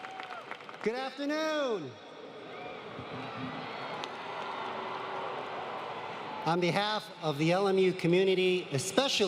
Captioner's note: applause